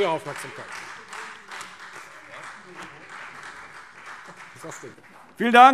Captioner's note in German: Beifall Freie Demokraten